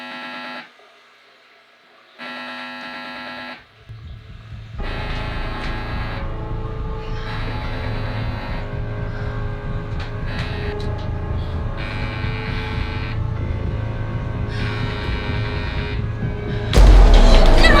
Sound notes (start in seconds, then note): 0.8 buzzing; 9.8 suspenseful music